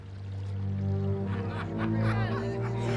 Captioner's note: laughter